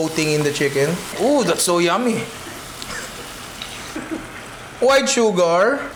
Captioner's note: laughs